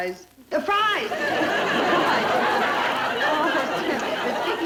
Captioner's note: audience laughter